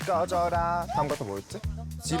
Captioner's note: forgot-the-lyrics sound effect